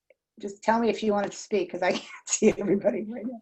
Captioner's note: laughter